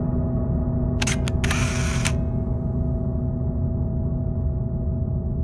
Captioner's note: camera shutter clicks